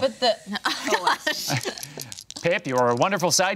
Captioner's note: group laughing